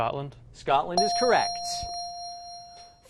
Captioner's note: ding